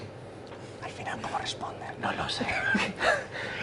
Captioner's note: in a whisper